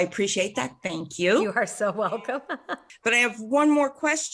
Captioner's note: laughs